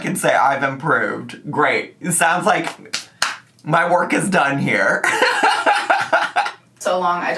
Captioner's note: laughs